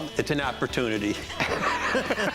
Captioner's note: laughs